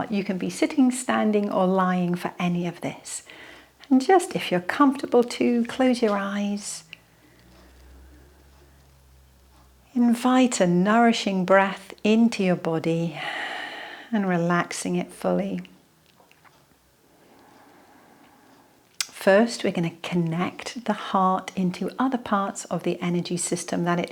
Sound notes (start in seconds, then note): 17.2 breathing in